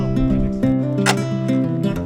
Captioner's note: tools thud